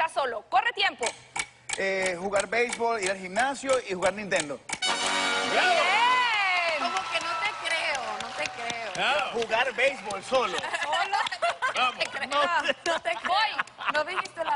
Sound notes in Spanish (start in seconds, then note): 10.4 Risas; 10.6 Carcajadas